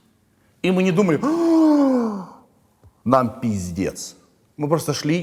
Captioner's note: gasps